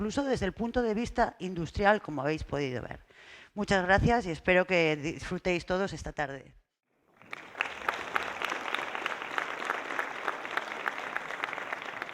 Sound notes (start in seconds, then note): 7.2 applause